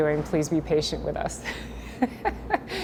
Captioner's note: laughter